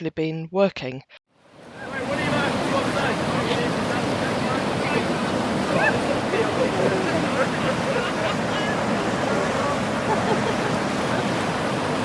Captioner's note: sounds of water rushing and people shrieking excitedly